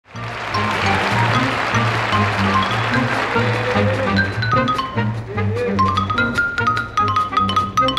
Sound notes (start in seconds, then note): 0.0 people cheering